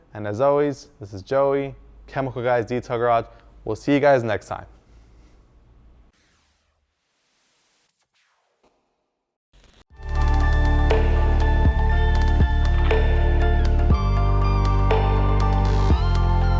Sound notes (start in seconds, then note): 6.1 logo crackling; 10.0 rhythmic music